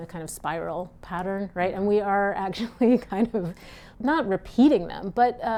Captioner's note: chuckles